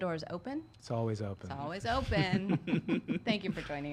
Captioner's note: laughing